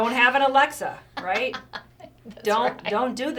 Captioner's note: laughs